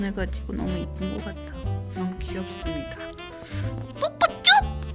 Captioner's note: kisses